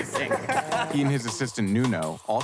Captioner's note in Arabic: يضحك